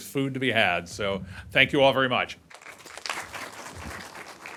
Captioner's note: applause